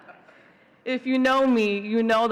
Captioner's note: all laughing